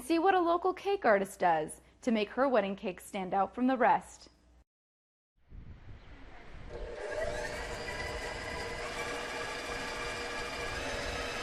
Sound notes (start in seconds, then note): 6.6 mixer whirring